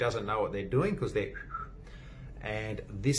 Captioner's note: whistles